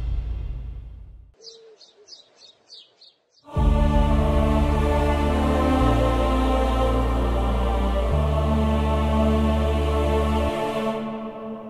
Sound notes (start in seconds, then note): 1.3 birds chirping; 3.4 mellow music playing